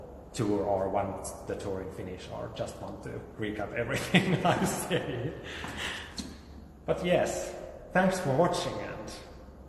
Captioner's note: laughs